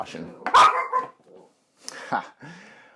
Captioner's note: Bowie Barks